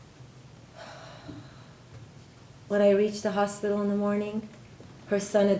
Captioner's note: sighs